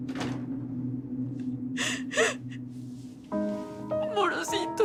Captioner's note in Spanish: Sollozos